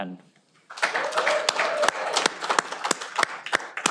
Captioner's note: cheering